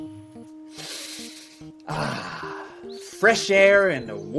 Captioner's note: takes a deep breath